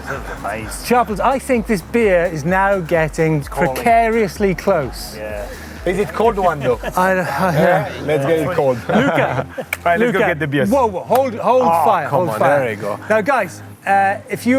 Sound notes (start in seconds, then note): 7.1 laughing; 9.7 claps; 11.4 claps